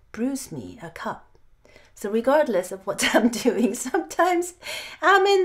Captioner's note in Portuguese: risos